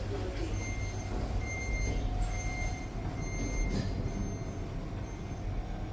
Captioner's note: door buzzer